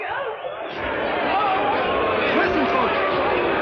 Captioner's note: shouting